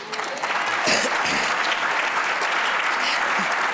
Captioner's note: applause